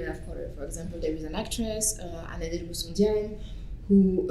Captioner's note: french